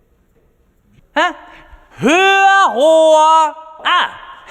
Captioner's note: screams